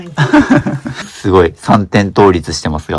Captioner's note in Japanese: 笑い